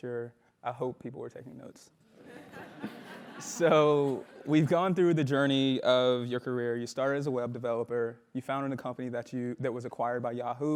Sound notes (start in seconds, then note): 2.3 laugh